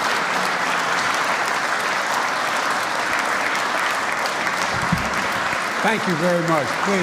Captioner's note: applause